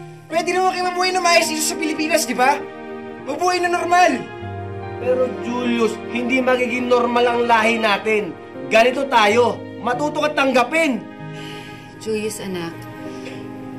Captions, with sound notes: You could've have lived a decent life here in the Philippines. Live normally. But Julius, our family is not normal. This is who we are. Learn to accept that. [sighs] Julius, son...